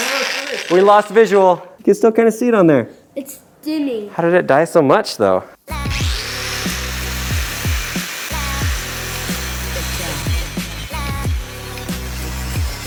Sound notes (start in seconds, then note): 5.6 dubstep music; 8.8 buzz saw